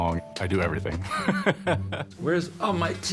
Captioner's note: laughs